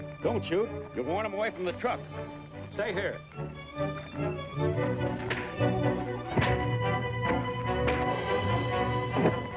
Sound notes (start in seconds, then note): 6.3 punches thud